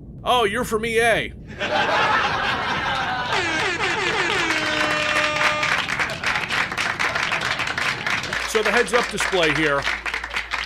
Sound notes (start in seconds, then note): 1.5 croud laughs; 2.8 air horns and applause; 6.4 more applause